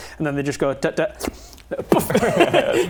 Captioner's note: slurp